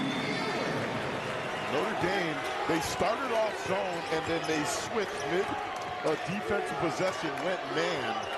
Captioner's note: cheering and applause